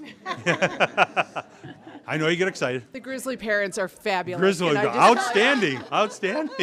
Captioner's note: laughing